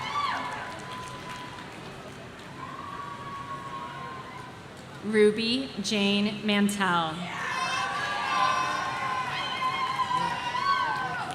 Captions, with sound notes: Ruby Jane Mantel. (audience cheering)